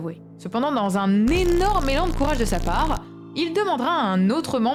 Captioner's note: sarcasm